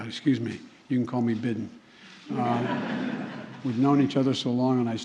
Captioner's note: laughter